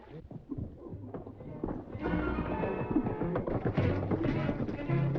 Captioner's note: horses cantering - worrying music